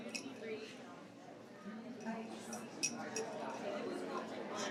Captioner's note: participants chatter